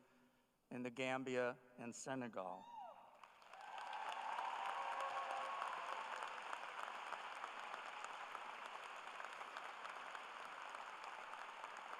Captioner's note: cheers and applause